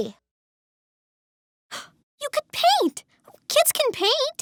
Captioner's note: gasps